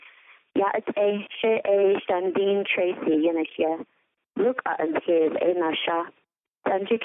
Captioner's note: Navajo language being spoken - 3:10 - 3:54